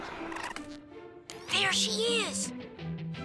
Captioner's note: whispering